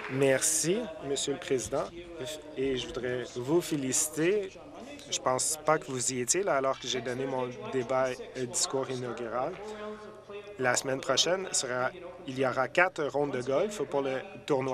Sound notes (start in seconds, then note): 0.0 applause